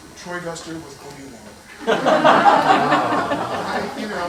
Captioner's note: laughter